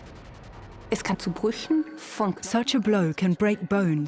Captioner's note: in German; dubbed in English